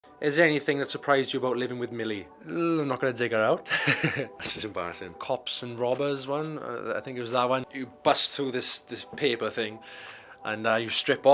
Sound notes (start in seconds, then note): 3.7 laughing